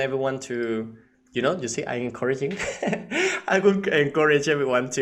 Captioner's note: laughing